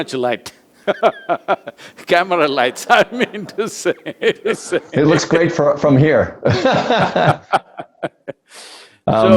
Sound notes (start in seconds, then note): 0.8 both laugh; 6.4 both laugh